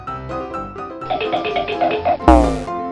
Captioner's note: quick tapping; electric bongo drums